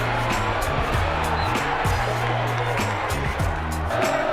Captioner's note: whistles